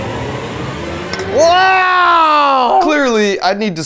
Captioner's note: fire whooshing; tense music; can clinking